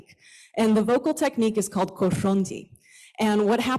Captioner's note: non-english